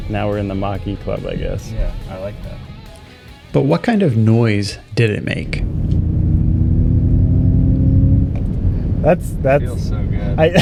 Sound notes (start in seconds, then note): 5.4 Mach-E softly roars